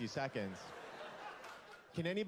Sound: laughter

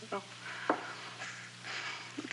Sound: sighs

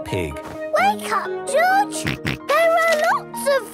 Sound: George snorts

